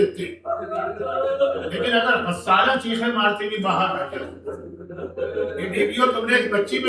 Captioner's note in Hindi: हंसी